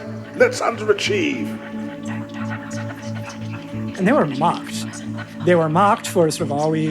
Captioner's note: soundbite of people whispering